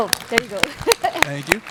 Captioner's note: applause